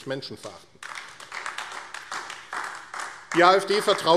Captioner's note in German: Beifall AfD